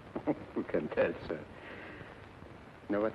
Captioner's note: laughs